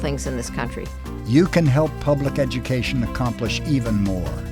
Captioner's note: voiceover